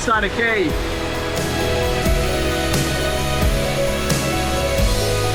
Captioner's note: water running